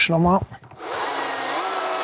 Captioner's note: whirring sound